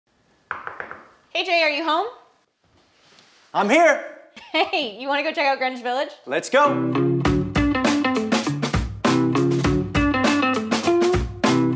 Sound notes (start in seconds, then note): 0.5 knocking on door; 4.7 laughs; 6.6 upbeat music